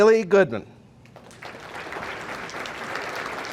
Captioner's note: audience applauding